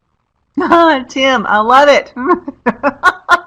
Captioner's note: laughs